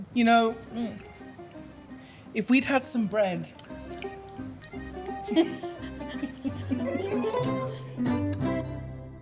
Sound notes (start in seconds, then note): 5.1 both laughing